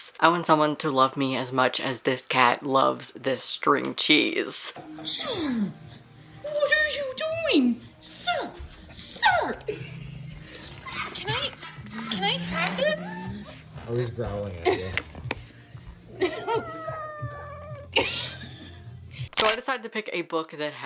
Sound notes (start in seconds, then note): 11.1 laughing in the background; 13.8 cat growls; 16.1 cat whimpers; 18.2 laughing; 19.3 camera shutter